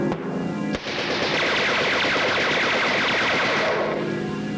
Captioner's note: machine-gun fire